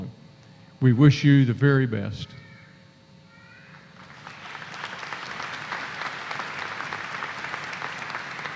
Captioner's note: applause